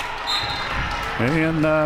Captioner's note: whistle